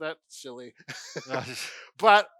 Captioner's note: laughs